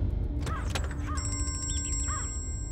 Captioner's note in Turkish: Telefon çalıyor